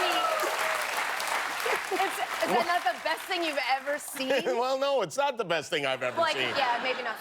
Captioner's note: cheers and applause